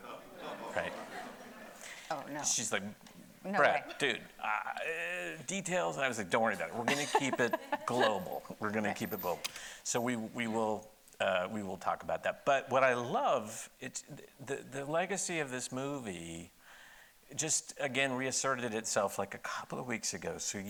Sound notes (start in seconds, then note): 0.0 audience laughing; 6.8 laughing